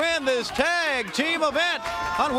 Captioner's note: crowd cheering